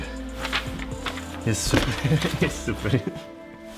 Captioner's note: laughter